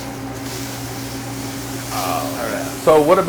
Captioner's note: meat sizzling